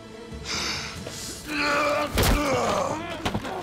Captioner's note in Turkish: Ertuğrul bağırıyor